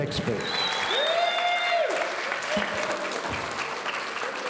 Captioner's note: audience cheering